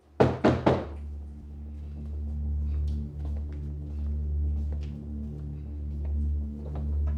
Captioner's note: loud knocking; tense music